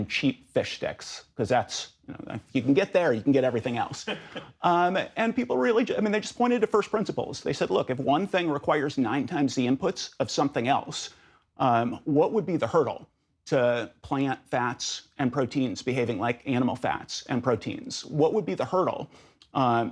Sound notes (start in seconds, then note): 4.0 laughter